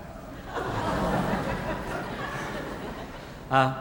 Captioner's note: audience laughing